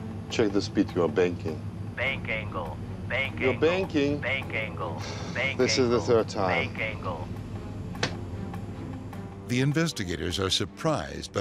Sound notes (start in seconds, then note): 0.0 tense music; 2.2 automated Voice